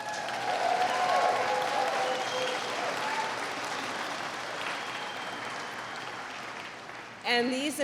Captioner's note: applause